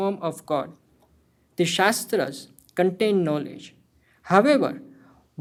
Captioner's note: hindi